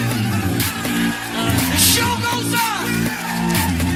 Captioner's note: Aplauze